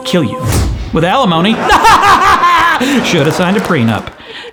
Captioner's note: laughs